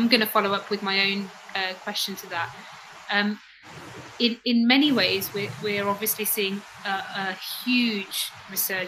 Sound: erm

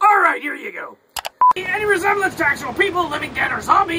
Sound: beeping

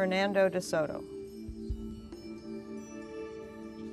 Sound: whispering

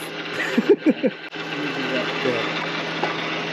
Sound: laughs

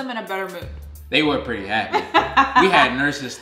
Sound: laughing

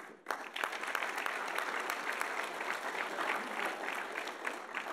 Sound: audience applauding

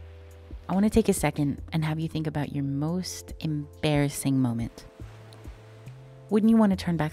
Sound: waves crashing

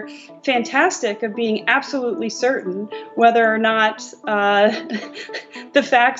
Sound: laughs

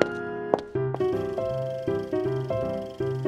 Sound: film reel rolling

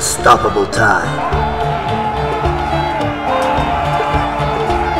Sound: men shouting

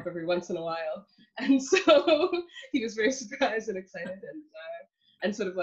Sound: laughs

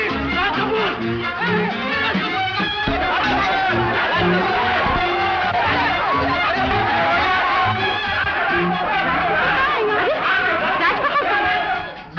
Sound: Muffled shouts of 'Raj Kapoor!'

